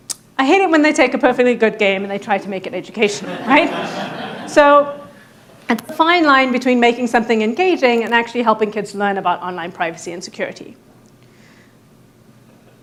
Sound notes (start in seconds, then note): 3.1 audience laughing